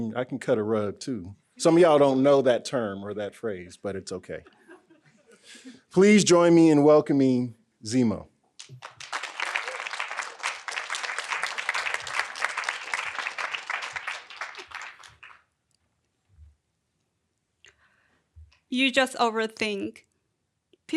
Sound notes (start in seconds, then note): 4.4 audience laughing; 8.6 audience applauding